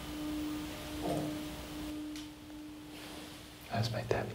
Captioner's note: object thumps